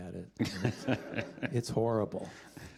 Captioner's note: laughter